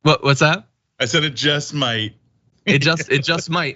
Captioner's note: laugh